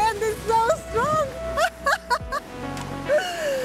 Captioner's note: laughs